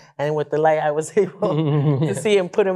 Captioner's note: chuckling